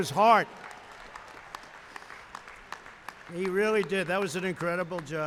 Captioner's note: applause